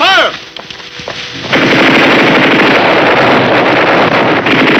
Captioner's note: gunshots blasting